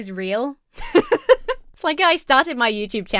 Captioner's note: laughs